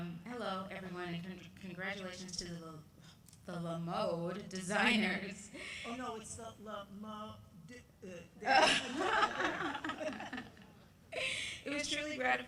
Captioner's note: laughter